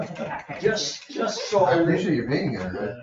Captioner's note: members laugh